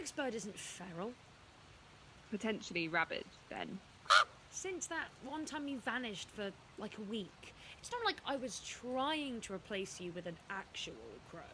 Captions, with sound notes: NYX Mx Bird isn’t feral. BELLA Potentially rabid, then. [CAWING.] NYX Since that one time you vanished for, like, a week. It’s not like I was trying to replace you with an actual crow-